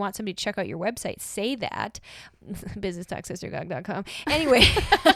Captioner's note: chuckles so self like a nerd